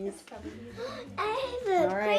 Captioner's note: gasps